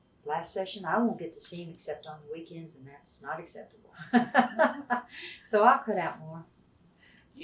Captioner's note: laughs